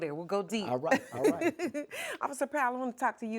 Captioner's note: laughs